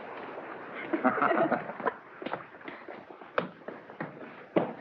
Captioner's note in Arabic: كلاهما يضحك